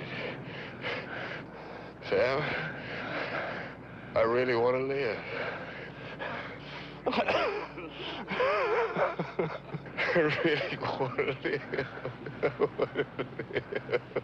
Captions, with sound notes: Sam, I really wanna live. (Sam and Roy laughing) I really wanna live! (laughs) I wanna live!